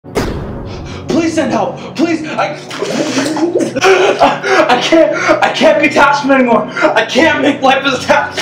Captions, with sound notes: Please send help— Please, I— (Helpless gurgling.) (Gasps.) I can’t— I can’t be Tashfin anymore! I can't make Life As A Ta—